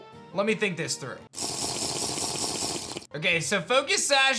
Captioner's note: drinking noise